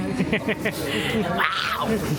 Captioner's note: laughing